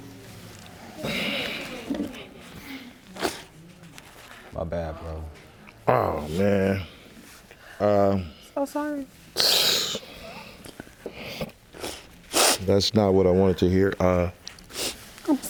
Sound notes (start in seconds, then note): 5.8 groans; 10.1 cries